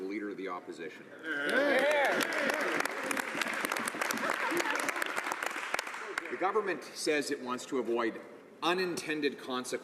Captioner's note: some Applause